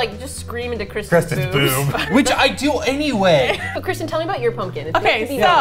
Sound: laughs

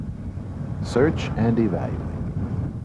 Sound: voiceover

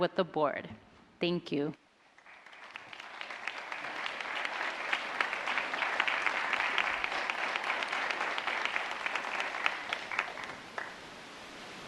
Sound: applause

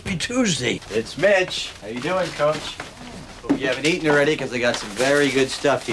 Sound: groaning

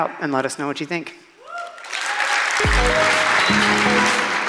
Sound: applause

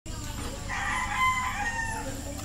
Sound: roosters crowing

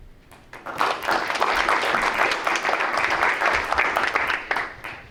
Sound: audience members clapping

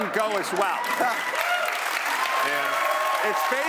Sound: cheering and applause

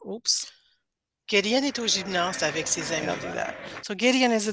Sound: people in video speaking French

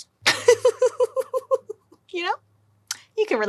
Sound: laughing

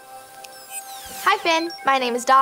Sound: electronic beeping

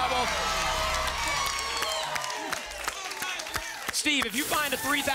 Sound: audience applause

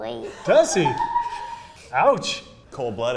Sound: laughing

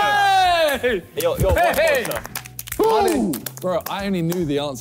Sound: clapping

